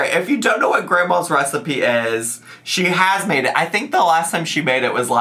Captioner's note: none